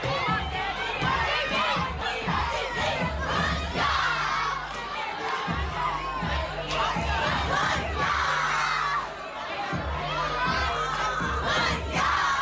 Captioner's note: cheering